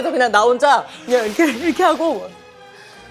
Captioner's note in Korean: 어푸 어푸